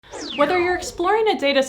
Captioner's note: laser sounds